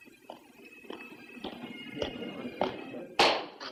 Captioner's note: men chattering